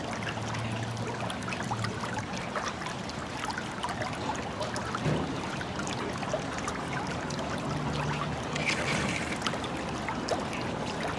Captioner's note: running water